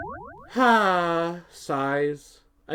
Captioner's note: sighs